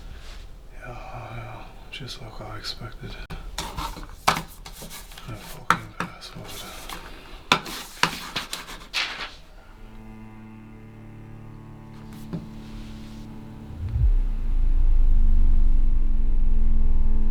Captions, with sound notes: Yeah, just like I expected. I fucking password. (paper falling to floor) (soft music)